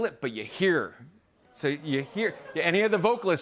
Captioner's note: audience groans